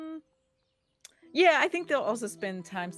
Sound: none

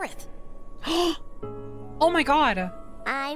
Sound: gasp

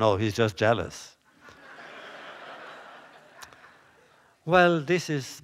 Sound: laughter

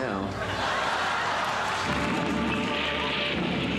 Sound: crowd laughing

